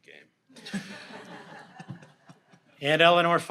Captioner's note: audience laughs